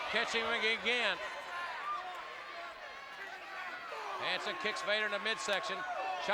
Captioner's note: applause